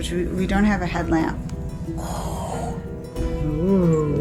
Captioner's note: breathing sounds